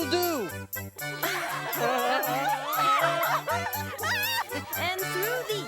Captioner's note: audience laughs